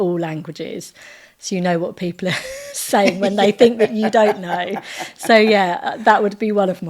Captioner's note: laughing